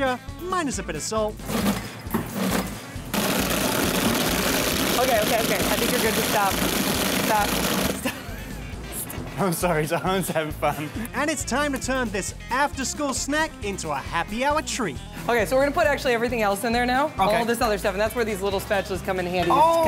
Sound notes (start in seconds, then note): 1.6 rattling; 8.0 laughing